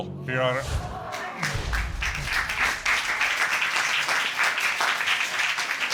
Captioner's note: applause